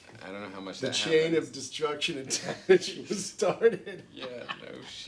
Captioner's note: laughs